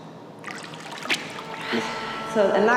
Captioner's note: water sloshing